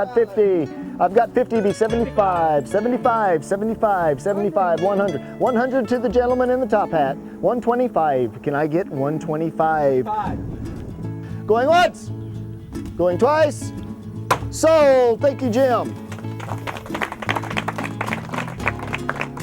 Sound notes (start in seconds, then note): 14.2 epic gavel slam; 16.0 applause